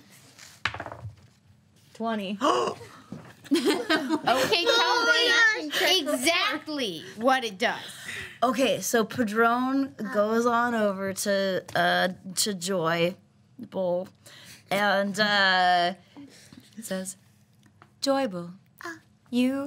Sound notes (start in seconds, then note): 2.7 gasps; 3.4 group laughs